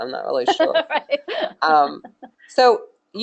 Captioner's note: laughing